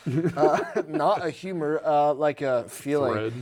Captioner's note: laughing